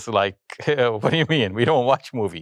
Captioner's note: chuckles